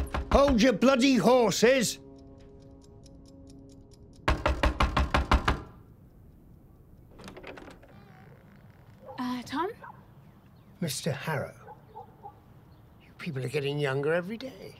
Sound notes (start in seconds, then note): 0.0 knocking; 3.1 timer ticks; 4.2 knocking